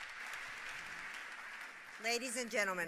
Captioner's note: applause